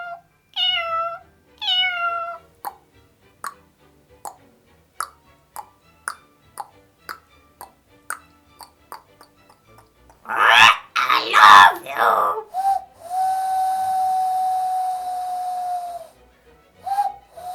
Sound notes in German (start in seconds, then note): 10.2 mit Papageienkrächzen